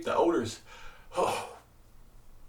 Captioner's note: groans